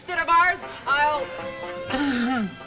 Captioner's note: speaker trails off